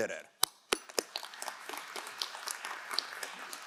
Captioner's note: crowd applauding